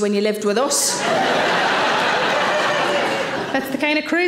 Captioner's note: audience laughing